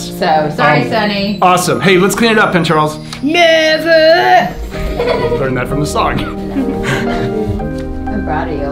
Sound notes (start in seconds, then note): 4.7 laughing